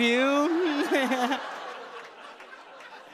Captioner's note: chuckles